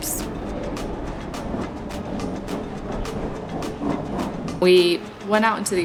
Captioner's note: wind blowing